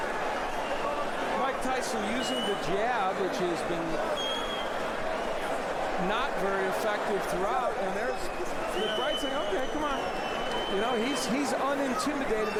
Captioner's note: applause